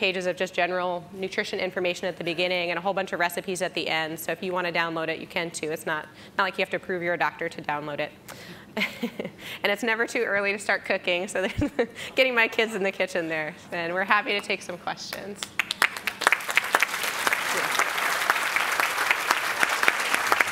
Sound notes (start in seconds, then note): 8.8 laughs; 15.4 audience clapping